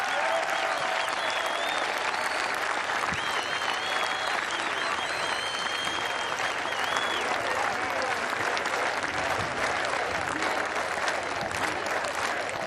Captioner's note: cheers and applause